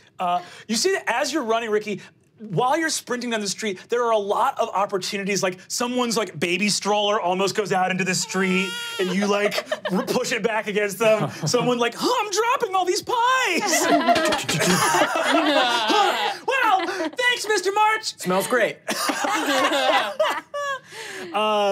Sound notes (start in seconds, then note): 8.0 baby crying; 13.6 laughing; 18.8 laughing